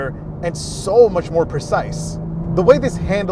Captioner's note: engine continues roaring